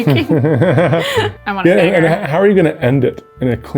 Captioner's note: laughs